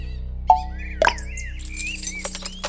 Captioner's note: click; car